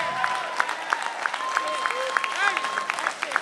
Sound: applause

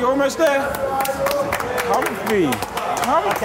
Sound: clapping

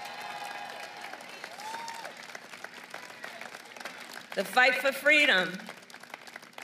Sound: applause

